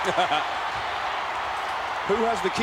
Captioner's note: chuckles